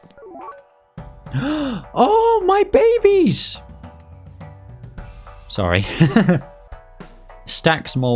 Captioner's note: laughs; gasp; laughs